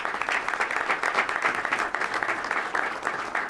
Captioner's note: applause